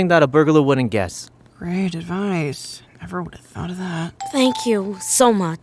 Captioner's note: under her breath sarcastically